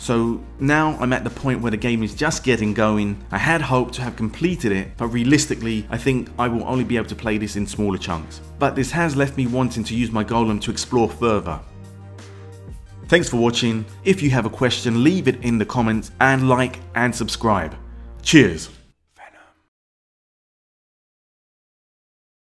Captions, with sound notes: So now I’m at the point where the game is just getting going. I had hoped to have completed it but realistically, I think I will only be able to play this in smaller chunks But this has left me wanted to use my Golem to explore further Thanks for watching, if you have a question leave it in the comments and LIKE & SUBSCRIBE Cheers! [Whispered] Venom